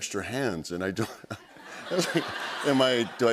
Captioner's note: laughter